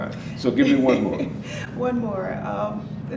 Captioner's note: laughing